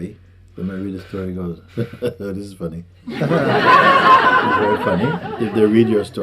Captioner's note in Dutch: gelach